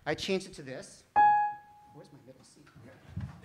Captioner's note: keyboard pings